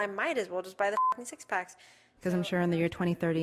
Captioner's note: beeping